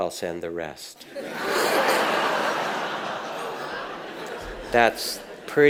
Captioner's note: audience laughs